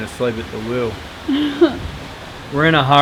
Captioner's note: laughs